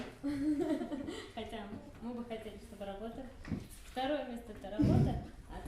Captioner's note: laughs